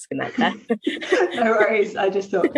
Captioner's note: group laughing